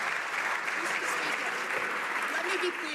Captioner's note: some Applause